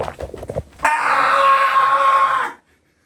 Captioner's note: finally manages to gulp it down